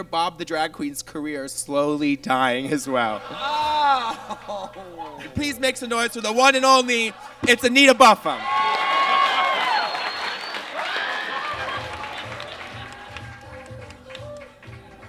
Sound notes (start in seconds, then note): 3.8 audience laughs; 8.7 audience cheers and claps